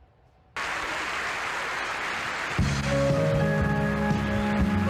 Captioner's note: applause